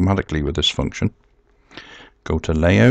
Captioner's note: pause